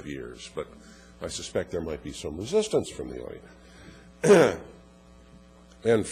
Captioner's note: cough